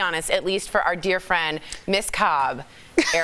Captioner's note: laughter